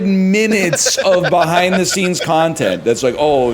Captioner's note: laughs